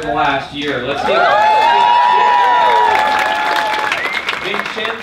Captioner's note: audience cheering